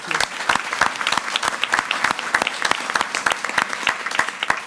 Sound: audience applauding

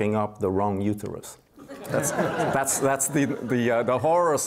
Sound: audience laughs

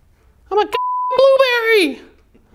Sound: beep

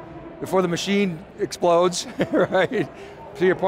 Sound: chuckles

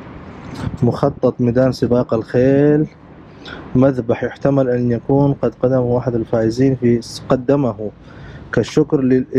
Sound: Arabic

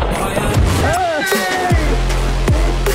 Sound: cheering

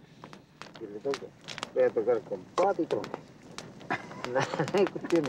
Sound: laughs

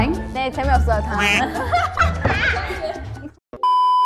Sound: teasing

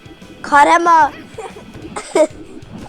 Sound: laugh

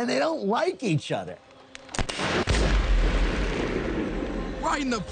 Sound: shot cracks

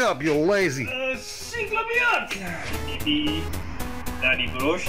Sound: speaks Russian

